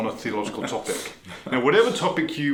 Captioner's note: laughing